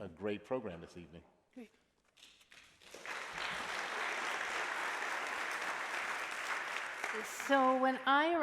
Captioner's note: applause